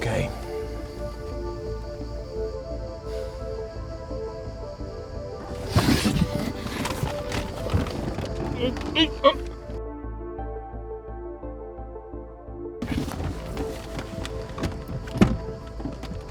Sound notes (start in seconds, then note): 1.8 dramatic music; 9.2 John moaning